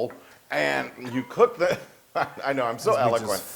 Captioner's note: laugh